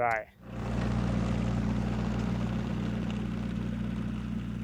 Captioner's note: tractor rumbling